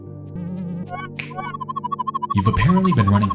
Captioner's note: warbling sound